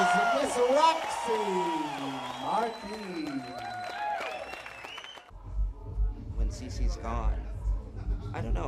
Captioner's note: cheers